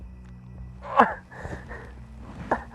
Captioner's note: grunts in pain